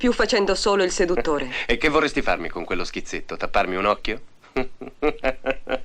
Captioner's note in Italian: risate